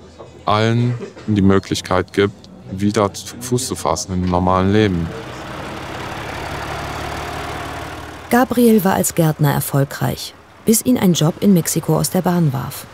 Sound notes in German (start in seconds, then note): 6.8 Motorrattern